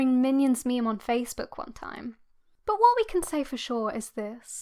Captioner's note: none